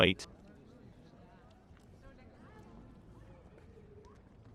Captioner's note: people chattering